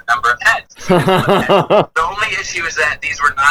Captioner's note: laughs